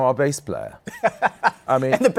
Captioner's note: laughs